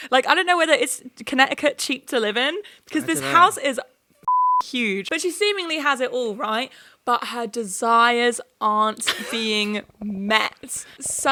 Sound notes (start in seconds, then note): 4.2 beep